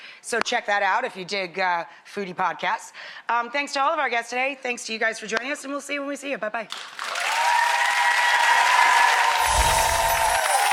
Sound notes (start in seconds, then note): 7.0 audience cheers